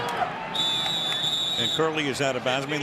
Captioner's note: whistle